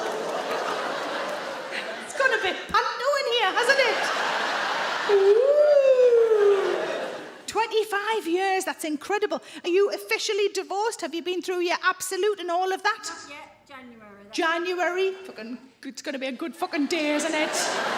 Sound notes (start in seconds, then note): 3.2 audience laugh